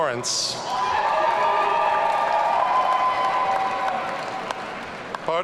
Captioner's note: audience cheering